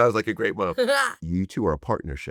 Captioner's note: Ellie laughs